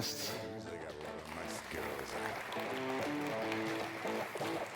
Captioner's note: audience applauds